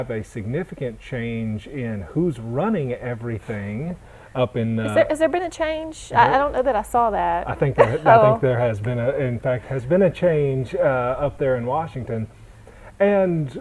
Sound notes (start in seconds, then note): 7.7 chuckle